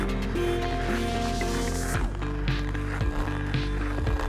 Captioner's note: cool music; skate stroking